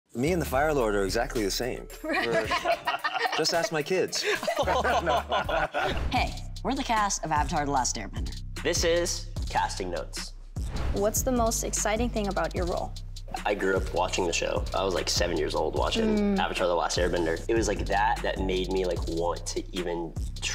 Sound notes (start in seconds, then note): 2.0 all laughing; 10.1 funky music